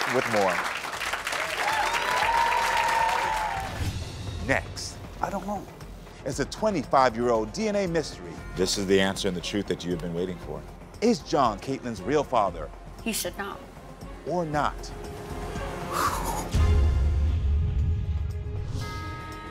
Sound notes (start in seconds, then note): 0.0 audience applauding; 15.9 sighs; 16.7 dramatic music